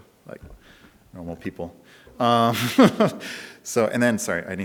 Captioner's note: speaker laughs